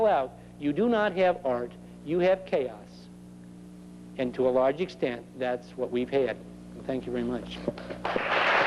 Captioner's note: applause